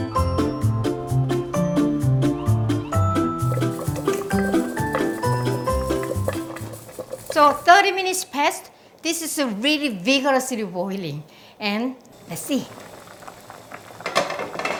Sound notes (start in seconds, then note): 2.6 stock bubbling